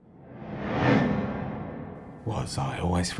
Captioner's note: memory image whooshes